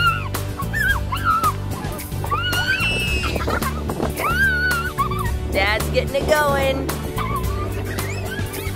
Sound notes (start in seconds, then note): 2.3 screams